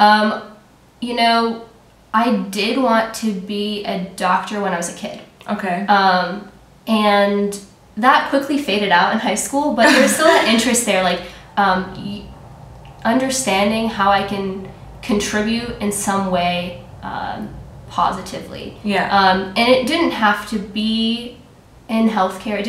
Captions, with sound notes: You know, I did want to be a doctor when I was a kid, and that quickly faded out in high school (laughter) but there was still an interest there. Understanding how I can contribute in some way positively, and it didn't have to be in healthcare,